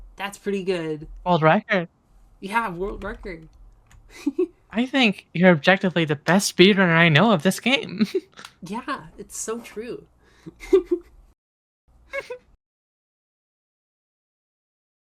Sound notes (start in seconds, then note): 7.9 giggle; 10.5 both giggling